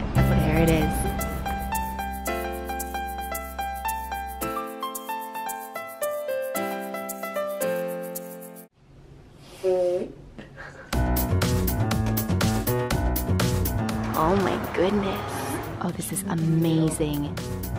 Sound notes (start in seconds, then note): 1.8 happy music; 9.5 imitates farting; 10.4 laughing; 11.0 upbeat music